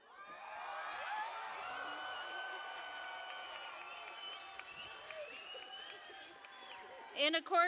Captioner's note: cheering